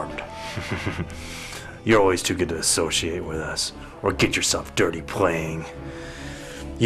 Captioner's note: chuckle